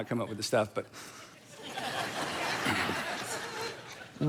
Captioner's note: congregation laughing